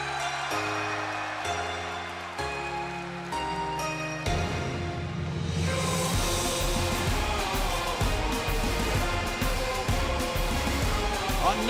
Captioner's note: cheers and applause